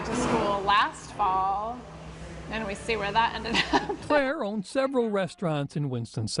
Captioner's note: laughs